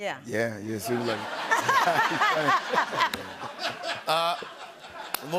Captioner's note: laughter